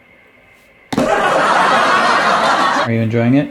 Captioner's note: background laughs